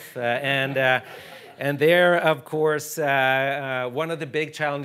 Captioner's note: audience chuckling